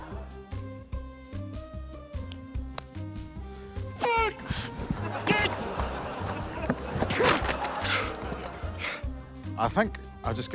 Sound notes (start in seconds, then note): 4.8 yells; 7.9 grunts, huffs